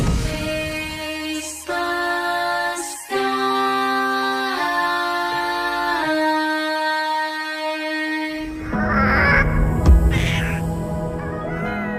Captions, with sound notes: Chase the sky! [Ghastling coos]